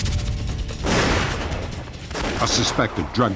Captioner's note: gunshot